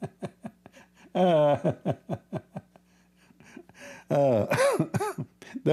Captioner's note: Ketawa